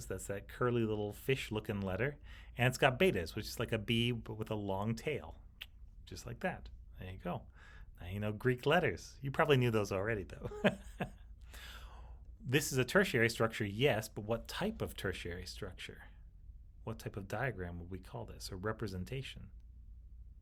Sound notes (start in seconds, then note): 5.7 clicks tongue; 10.4 chuckles